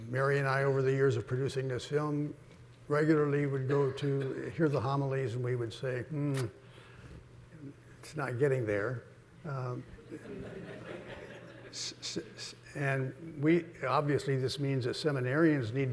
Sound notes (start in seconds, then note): 10.0 audience laughing